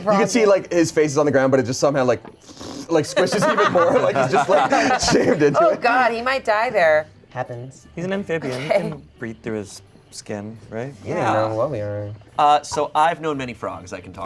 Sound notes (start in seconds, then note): 2.4 blows raspberry; 3.2 laughs